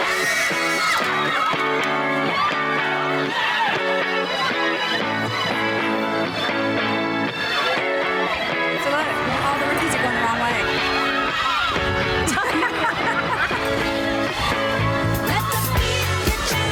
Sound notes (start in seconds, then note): 0.0 women cheering; 0.1 upbeat music; 11.1 upbeat music; 11.1 women cheering; 12.3 laughing; 13.7 upbeat music; 13.7 women cheering